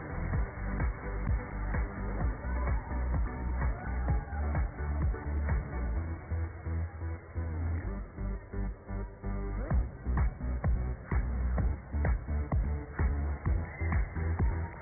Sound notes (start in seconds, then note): 2.2 cheers and applause